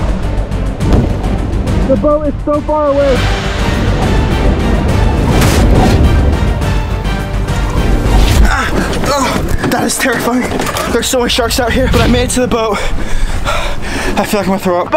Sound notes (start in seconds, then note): 0.1 tense music; 4.3 water gurgling; 8.3 grunts